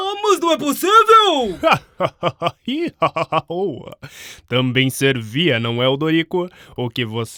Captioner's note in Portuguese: Gargalhadas